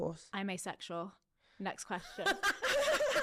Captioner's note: both laughing